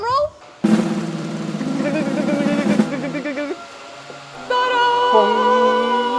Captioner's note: mimics drum roll; drum roll begins